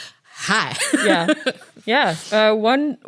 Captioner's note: laughs